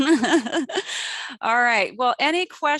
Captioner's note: chuckles